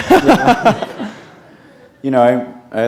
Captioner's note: laughter